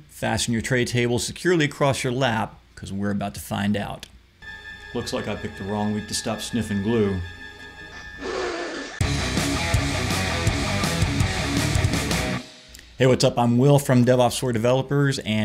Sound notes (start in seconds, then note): 8.2 loud sniff; 8.8 aggressive rock music